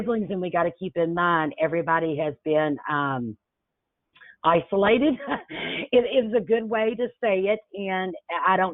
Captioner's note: chuckles